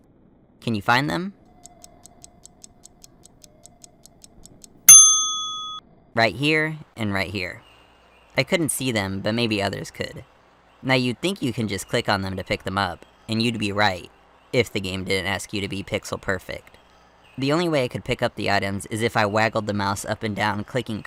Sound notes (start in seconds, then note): 1.5 ticking Clock